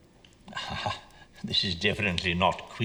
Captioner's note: chuckles